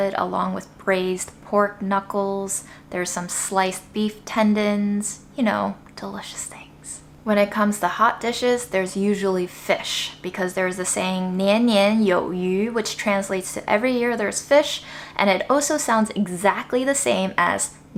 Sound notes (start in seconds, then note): 11.4 speaking Chinese